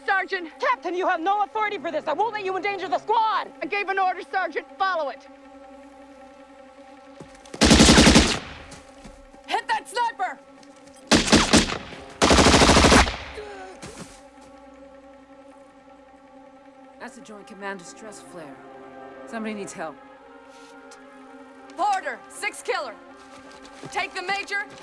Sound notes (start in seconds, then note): 11.1 machine Gun Fire; 11.1 rifle Fire